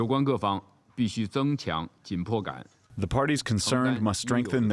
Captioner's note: through translator